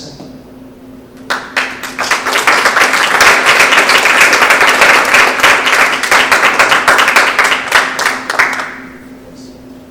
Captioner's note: applause